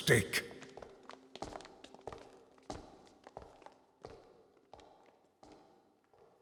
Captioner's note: sounds of people standing up, footsteps leaving room